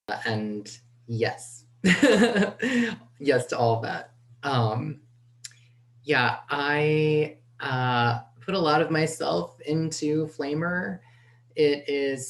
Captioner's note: laughing